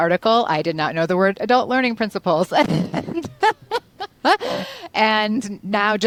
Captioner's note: laughs